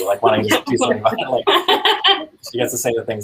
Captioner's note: laughing